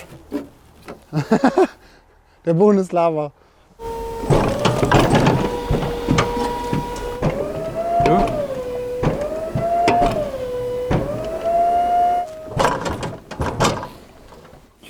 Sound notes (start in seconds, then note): 1.0 Lacht